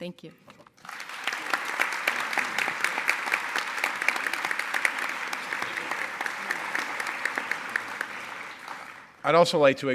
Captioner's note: applause